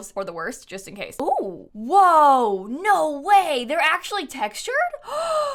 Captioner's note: gasps